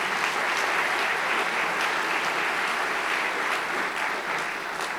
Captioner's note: applause